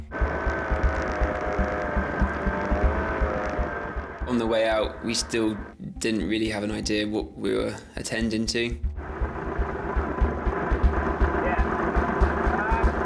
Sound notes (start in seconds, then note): 0.0 boat droning; 8.8 boat droning; 8.9 wind whooshing